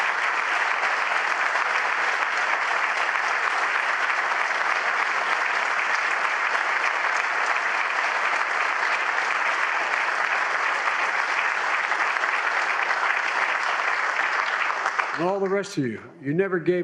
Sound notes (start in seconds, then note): 2.5 applause